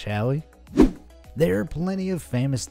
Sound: air whooshing

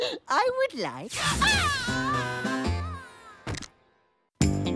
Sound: zapping

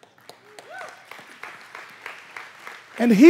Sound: congregation clapping

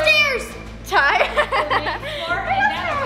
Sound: laughs

